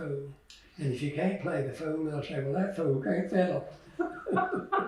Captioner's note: laughter